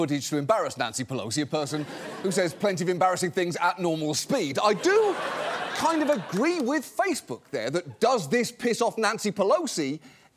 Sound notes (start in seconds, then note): 4.7 laughter